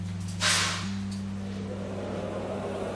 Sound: loud slamming noise

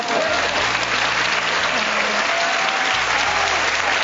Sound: audience clapping

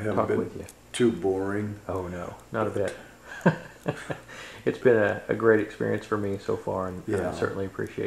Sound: laughs

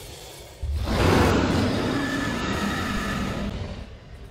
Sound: dinosaur roars

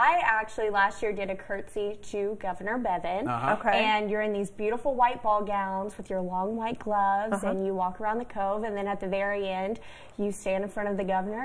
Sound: laughter

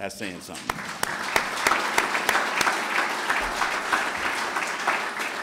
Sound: clapping

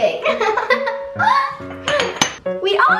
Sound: laughing

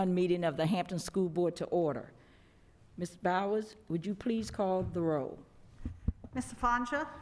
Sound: gavel

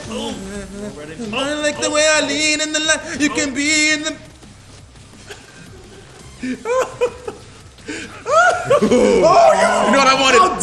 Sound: laugh

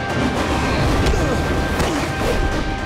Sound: grunting

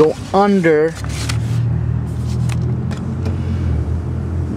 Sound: shuffling

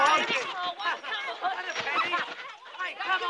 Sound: chattering and laughing

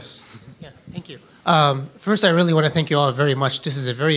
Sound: voiceover

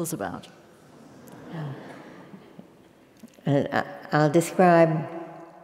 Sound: laugh

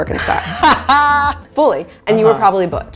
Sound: laughing

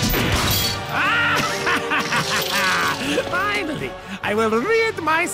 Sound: doofenshmirtz laughing

